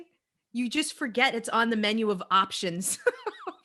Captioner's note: laughs